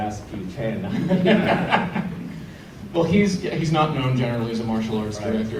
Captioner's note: laughter